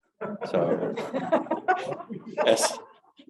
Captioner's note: audience laughing